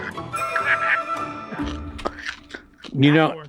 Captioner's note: Frank laughs softly